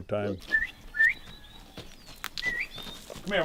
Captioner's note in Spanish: silbido